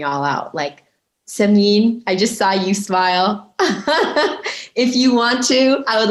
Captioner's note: chuckling